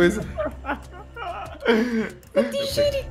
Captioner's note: laugh